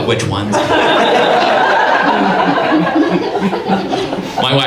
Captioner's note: audience laughs